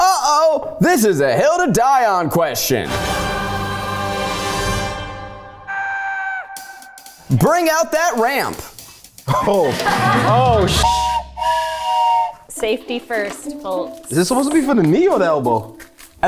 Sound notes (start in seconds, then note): 3.0 dramatic music; 10.7 whistle blows